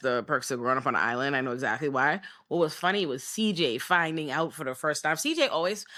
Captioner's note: none